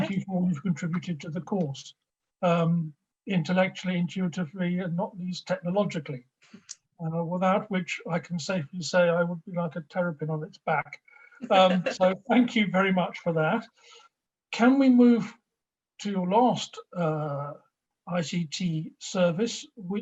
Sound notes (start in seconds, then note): 11.4 laughs